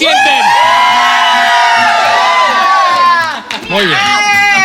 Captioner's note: screaming